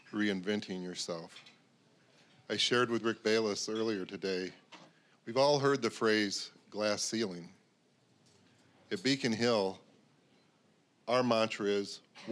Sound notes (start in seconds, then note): none